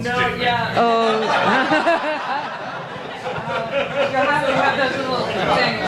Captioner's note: audience laughter